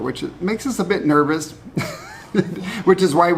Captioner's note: laughs